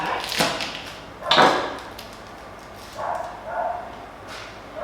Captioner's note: dog barking